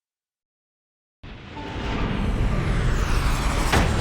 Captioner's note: whooshing